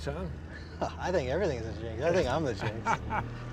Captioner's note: laughs